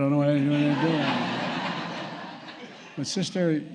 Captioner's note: laughter